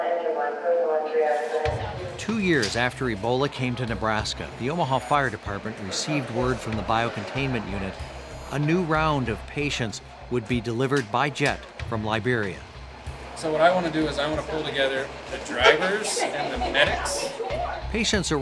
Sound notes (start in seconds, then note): 1.0 dispatcher instructctions over loudspeaker